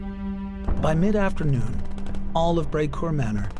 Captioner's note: guns firing